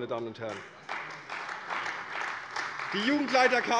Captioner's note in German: Beifall bei der CDU